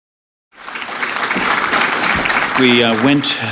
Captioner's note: applause